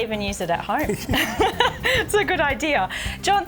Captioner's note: both laughing